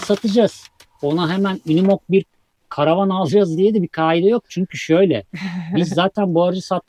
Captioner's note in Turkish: kahkaha